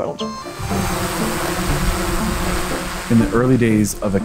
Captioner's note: drone flying